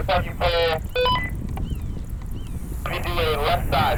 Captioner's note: radio beeps